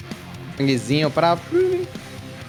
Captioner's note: chittering